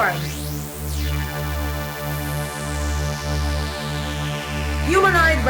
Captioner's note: eerie sci-fi whirring